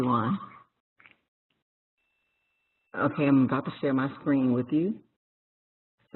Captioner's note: pause